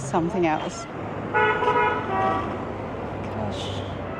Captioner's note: horn honking